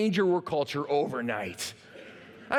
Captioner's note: laughter